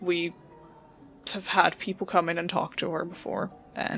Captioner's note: none